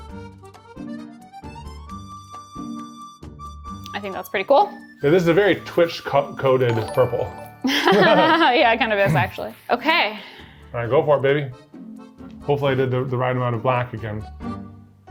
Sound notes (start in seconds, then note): 7.7 laughs